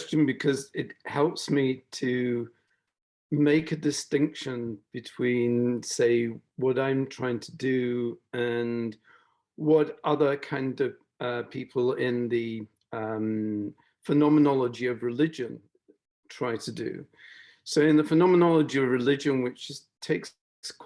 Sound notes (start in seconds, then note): none